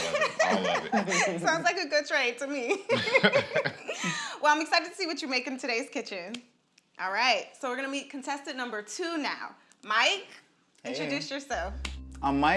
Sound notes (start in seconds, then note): 2.6 laughs